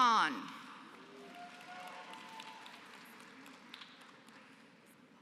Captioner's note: applause